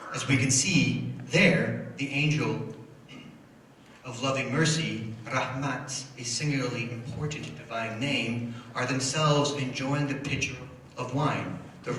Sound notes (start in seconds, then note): 5.3 foreign language